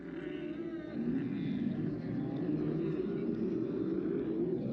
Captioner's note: camels groaning